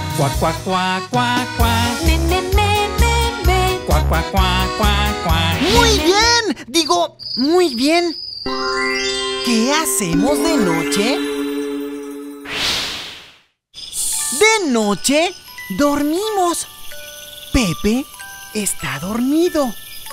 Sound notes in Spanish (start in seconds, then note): 15.3 Sonido de grillos